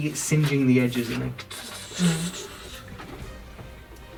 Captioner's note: sizzling noises